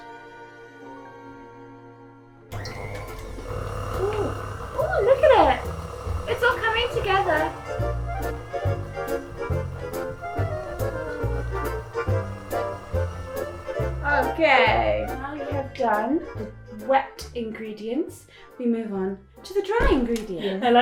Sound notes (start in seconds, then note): 0.1 upbeat jazz music; 3.2 mixer whirring; 7.8 upbeat jazz music